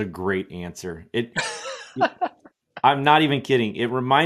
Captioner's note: laughs